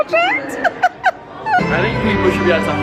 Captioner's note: giggling